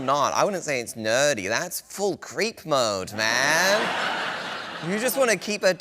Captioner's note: laughter